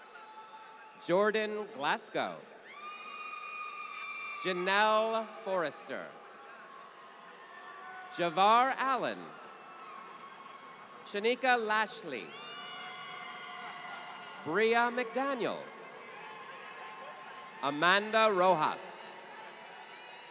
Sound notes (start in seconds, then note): 2.5 applause; 12.4 applause